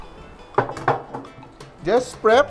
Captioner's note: knock